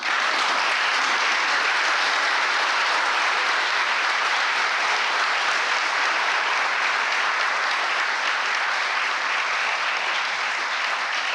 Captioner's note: applause